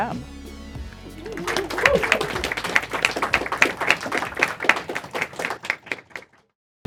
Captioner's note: team claps